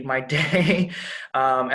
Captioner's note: laughing